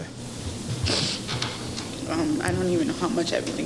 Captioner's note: tearful sob